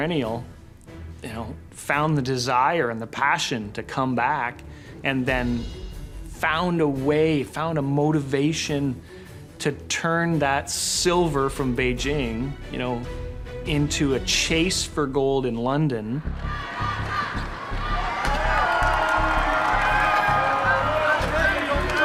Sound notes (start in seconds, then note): 16.2 chanting; 16.3 cheering